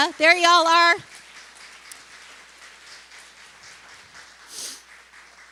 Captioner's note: applause